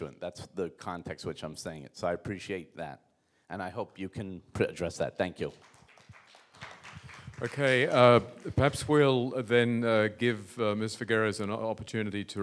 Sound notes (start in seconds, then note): 5.5 audience applauds